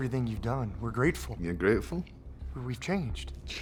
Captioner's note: scottish accent